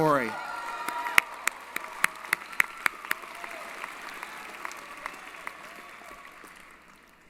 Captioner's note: applause & Cheering